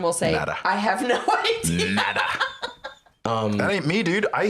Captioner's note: laughs